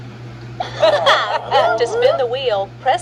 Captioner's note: Maria and Tomoko cheer; Martin groans